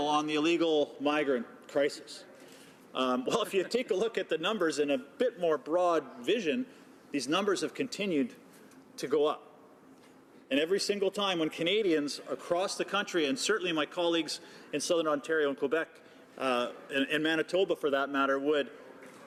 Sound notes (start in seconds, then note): 3.3 laughter